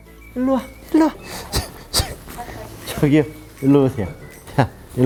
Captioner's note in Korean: 끙차